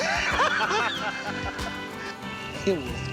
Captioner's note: both laugh